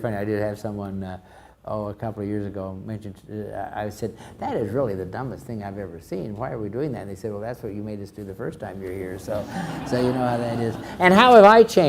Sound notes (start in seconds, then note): 9.2 crowd laughs